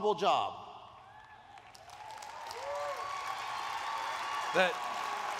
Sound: applause

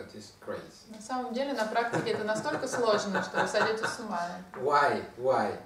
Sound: hahaha

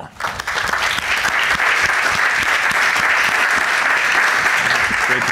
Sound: audience applauding

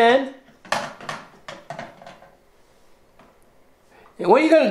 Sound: cup clanking

